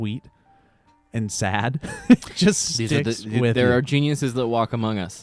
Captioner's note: laughs